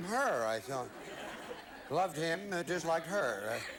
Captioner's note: audience laughing